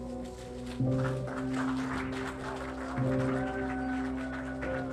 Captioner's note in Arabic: الجمهور يصفق